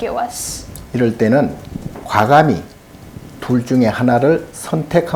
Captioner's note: speaking Korean